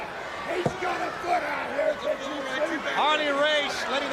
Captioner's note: crowd chatter